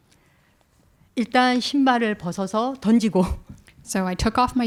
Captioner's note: speaking in Korean